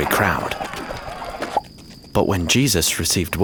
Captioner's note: bubble popping